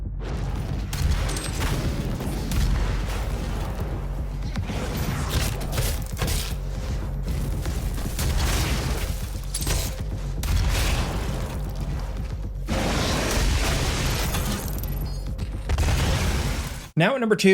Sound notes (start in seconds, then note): 0.5 gun firing; 5.4 gun firing; 5.4 punches thudding; 12.5 fire roaring; 12.6 gun firing